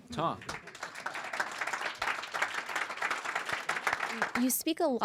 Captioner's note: audience applauds